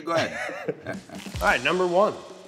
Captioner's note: laughing